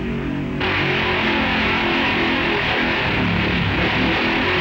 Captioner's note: hot rods revving